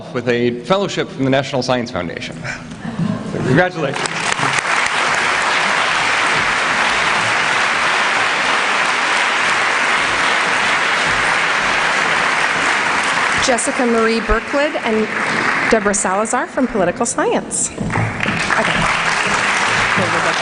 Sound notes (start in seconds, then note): 3.8 applause